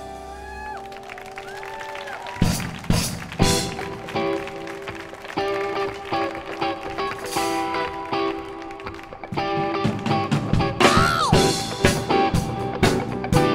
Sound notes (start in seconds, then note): 0.7 audience cheers and applauds